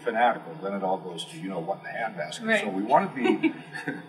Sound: laugh

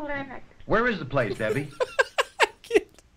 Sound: laughs

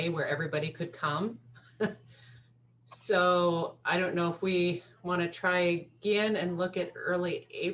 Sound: laughter

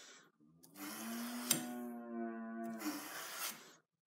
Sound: moo

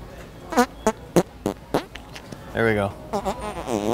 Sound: farting noise

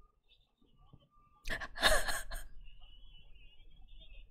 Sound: laughs

